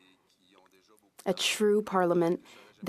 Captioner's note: speaking French